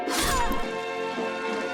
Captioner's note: severed arm thudding; blood spraying; flesh squishing